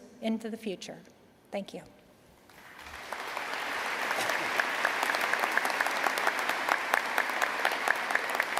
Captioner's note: applause